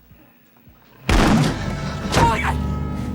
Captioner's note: door booming